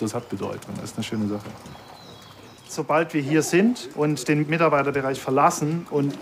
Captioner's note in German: none